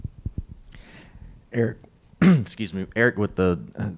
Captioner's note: coughs